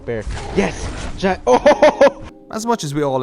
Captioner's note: laughing